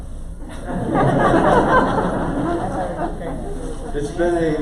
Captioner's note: crowd laughter